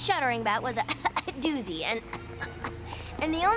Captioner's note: coughs